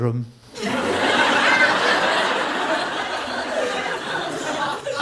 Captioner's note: audience laughing